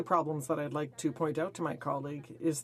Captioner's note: speaking in french